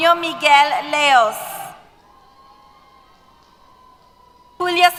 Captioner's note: cheers